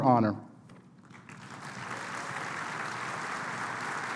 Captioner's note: applause